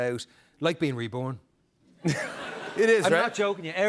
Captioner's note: laughter